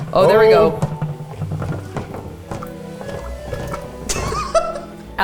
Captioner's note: plate rattles; laughs